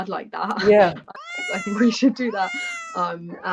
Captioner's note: miaowing sound